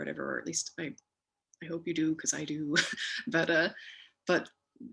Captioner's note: chuckles